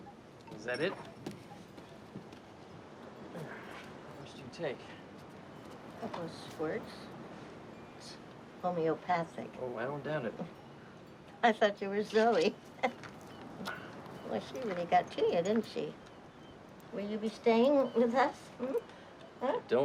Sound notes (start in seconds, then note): 12.8 laughs